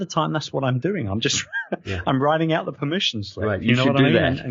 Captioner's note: chuckles